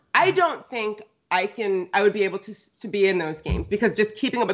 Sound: none

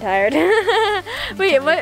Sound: laughs

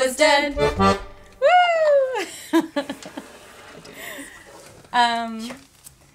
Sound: laughter

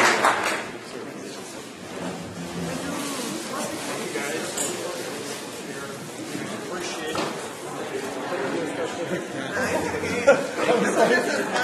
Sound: applause

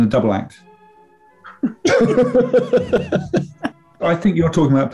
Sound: laughter

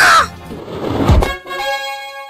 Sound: screams

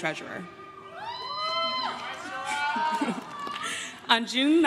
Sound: crowd cheers and claps

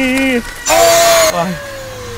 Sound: demonic screaming

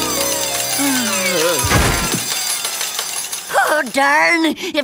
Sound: sighing

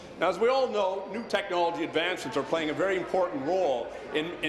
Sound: speaking in english

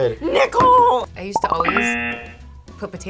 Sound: buzzer

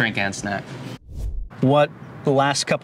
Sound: air swooshing

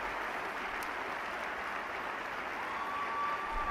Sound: applause

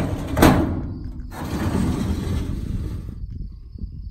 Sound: metal slides closed; metal sliding open

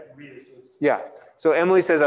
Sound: audience mumbles

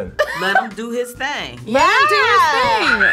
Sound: laughs

